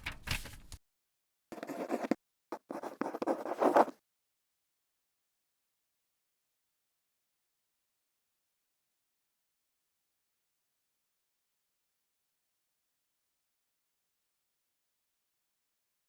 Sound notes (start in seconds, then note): 2.5 pen scribbling